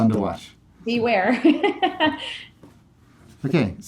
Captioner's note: laughing